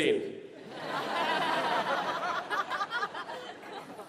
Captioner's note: laughter